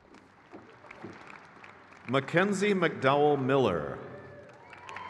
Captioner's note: crowd cheers